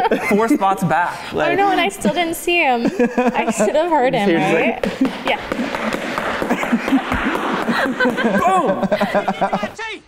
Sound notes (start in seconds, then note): 4.7 footsteps